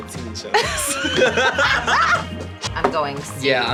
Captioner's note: both laugh